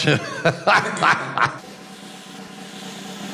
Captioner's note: laughs